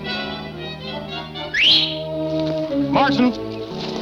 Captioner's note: man whistles